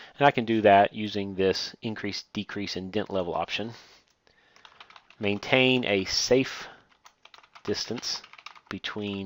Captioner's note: typing